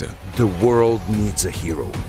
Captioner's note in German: englisch